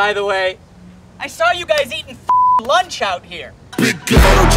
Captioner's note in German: piep